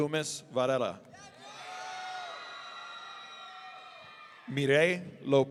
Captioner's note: audience cheering